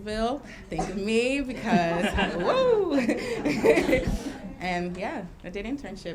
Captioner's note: laughing